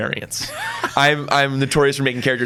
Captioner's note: laughs